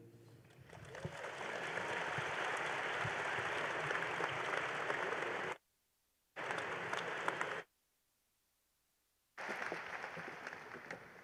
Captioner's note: applause